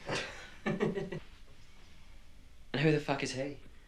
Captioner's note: Randy chuckles